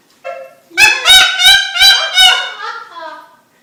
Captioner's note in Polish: śmiech papugi